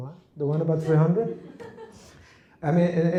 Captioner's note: laughter